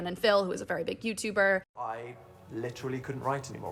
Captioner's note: soundbite of archived recording